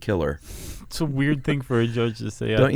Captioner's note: laughs